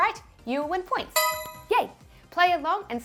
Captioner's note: bell dings